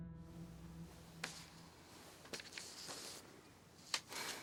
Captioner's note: papers rustling